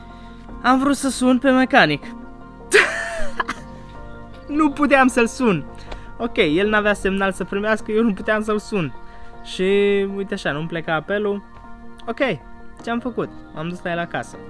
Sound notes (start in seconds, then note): 2.7 hysterical laughter